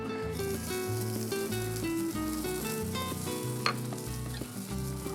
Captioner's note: sizzling